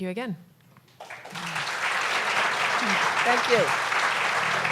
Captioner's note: applause